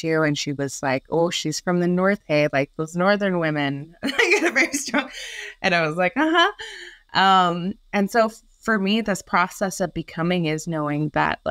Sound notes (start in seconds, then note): 4.0 laughs